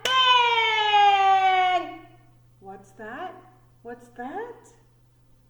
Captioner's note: clap hands together